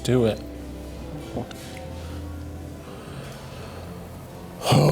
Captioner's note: swallows